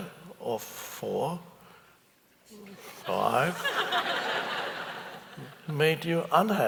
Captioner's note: audience chuckles